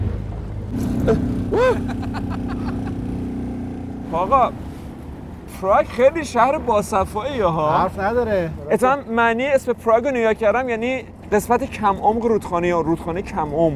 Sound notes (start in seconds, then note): 1.5 laughter